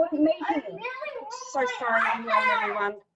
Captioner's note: kids screaming